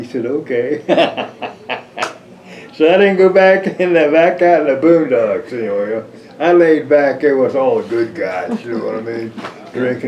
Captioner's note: laughs